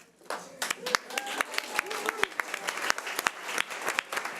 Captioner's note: audience applause